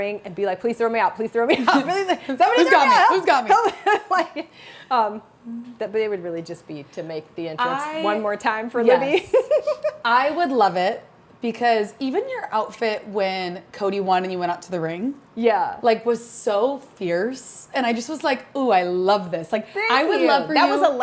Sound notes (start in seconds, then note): 9.0 chuckles